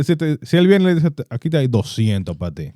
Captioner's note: speaking In Foreign Language